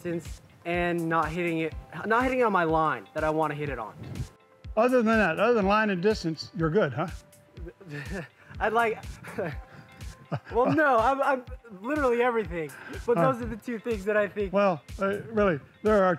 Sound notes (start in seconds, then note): 8.9 both laugh; 8.9 laughs